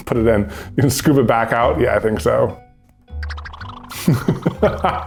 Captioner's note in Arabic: ضحكات خافتة